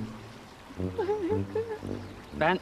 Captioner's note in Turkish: Ağlama sesi